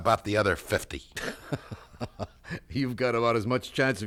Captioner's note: laughs